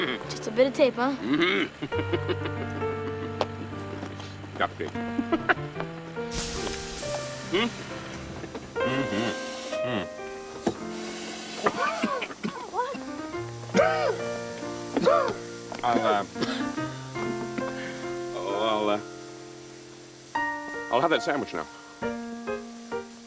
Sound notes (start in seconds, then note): 5.6 steam; 10.9 coughs